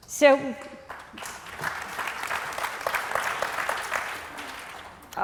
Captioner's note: applause